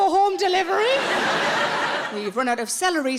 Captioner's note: audience laughs